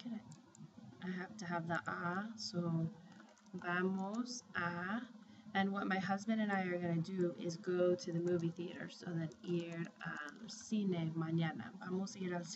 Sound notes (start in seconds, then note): 1.9 spanish; 3.2 speaking spanish; 8.7 speaking spanish